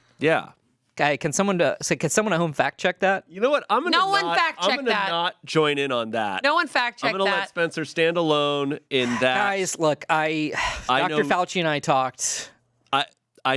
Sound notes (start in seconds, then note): 9.0 sighs